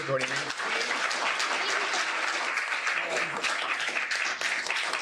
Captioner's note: applause